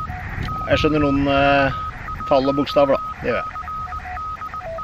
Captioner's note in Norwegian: Hører på morse